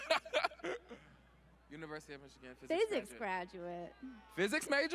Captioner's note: laughter